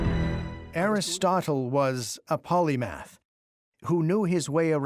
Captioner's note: in German